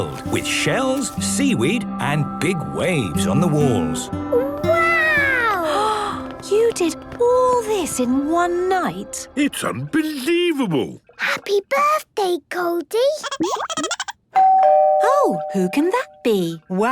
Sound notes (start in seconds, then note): 13.4 Goldie giggling; 14.3 doorbell ringing